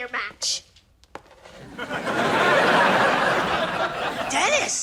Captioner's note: audience laughing